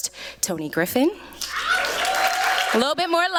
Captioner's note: applause